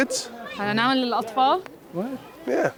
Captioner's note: non-english speech